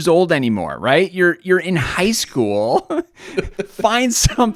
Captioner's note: chuckles